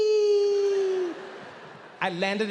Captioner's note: audience laughing